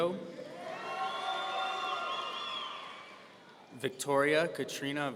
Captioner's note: audience cheering